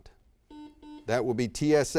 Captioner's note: buzzer beeps